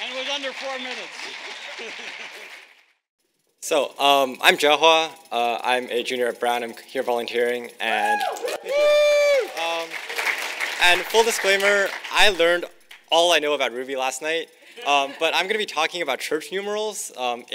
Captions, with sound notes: And it was under four minutes. - So I'm Jae Hwa, I'm a junior at Brown, I'm here volunteering and- (audience cheering) And full disclaimer, I learned all I know about Ruby last night, but I'm gonna be talking about church numerals.